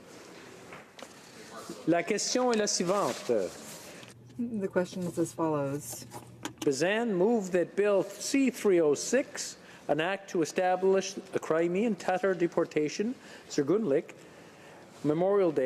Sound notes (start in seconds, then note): 9.3 speaking French